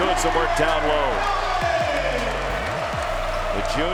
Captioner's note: cheering